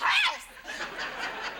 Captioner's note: audience laughs